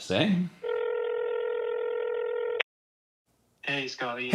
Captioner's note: phone ringing